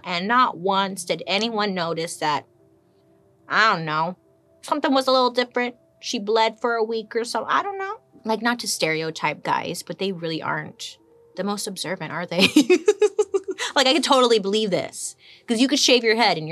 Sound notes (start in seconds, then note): 12.5 laughs